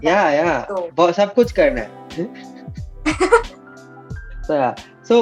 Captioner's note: laughs